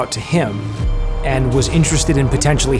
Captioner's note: car engine roaring